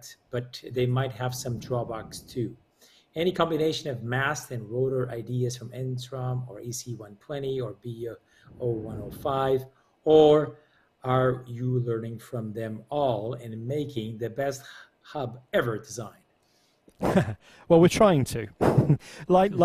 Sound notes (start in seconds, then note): 16.9 chuckles